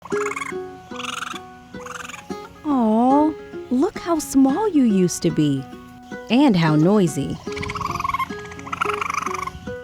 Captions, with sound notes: [Raccoon calling out] Aw, look how small you used to be! And how noisy. [Raccoon calling out]